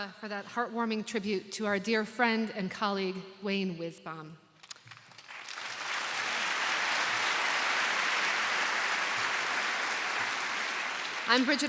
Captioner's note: applause